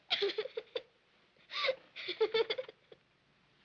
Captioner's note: sobbing